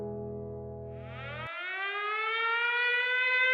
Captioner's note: siren